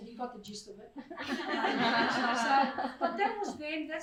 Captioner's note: crowd laughs